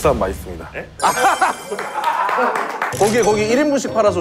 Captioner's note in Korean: 전국 자취생의 박수갈채